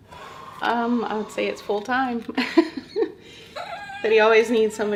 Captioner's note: chuckling